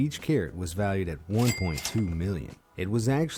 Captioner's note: cash register ringing